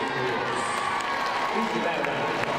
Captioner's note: crowd cheering